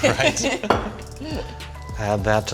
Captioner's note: both laughing